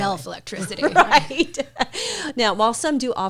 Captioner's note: laughs